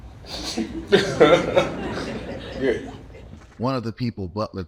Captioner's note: audience laughing